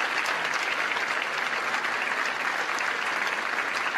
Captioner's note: applause